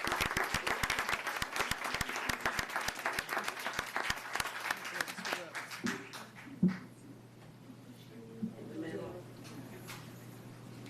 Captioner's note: applause